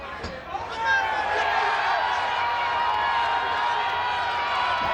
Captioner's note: audience cheers